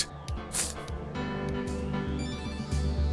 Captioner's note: sniff